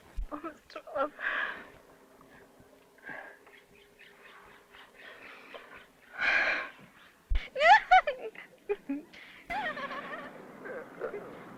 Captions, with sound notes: They are broken. [ SIGH ] [ LAUGH ]